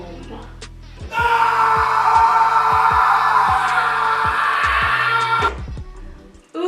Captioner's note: screaming